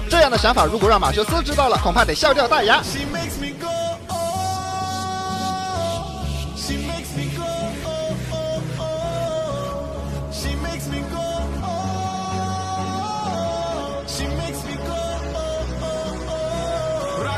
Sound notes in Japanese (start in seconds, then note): 2.2 擬音